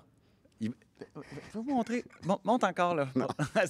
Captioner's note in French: rires